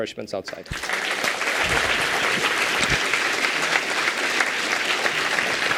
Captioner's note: applause